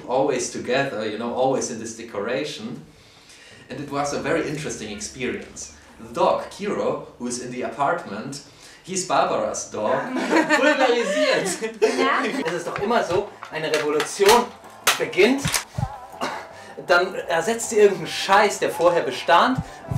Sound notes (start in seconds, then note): 10.0 laughing